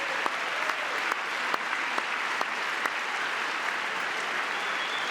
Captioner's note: applause; cheering